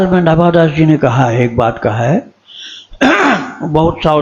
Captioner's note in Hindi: खांसने की आवाज़; गला साफ़ करने की आवाज़